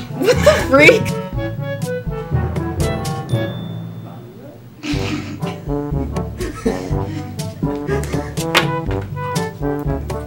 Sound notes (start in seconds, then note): 4.7 snickering